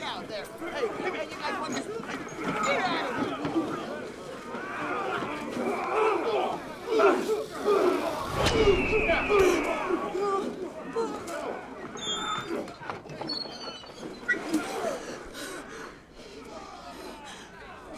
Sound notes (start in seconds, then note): 2.6 men grunting; 11.8 saloon doors creaking; 14.2 woman panting